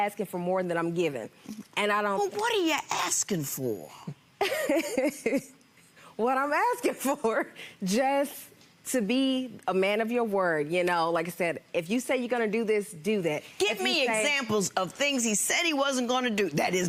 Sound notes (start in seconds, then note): 4.2 laughs